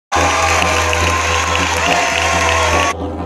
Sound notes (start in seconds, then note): 0.1 cheering